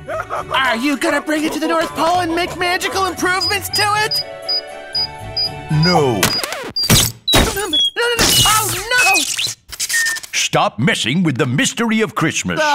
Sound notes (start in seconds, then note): 6.2 crunch; 8.8 crunch crunch